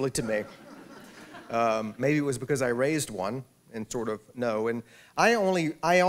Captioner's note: laughter